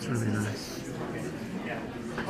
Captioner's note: overlapping muttering; woman's Voice